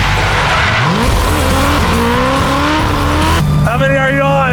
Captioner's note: engine revving